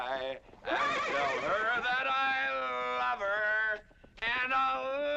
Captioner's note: horse neighing